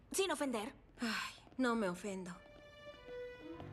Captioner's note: sigh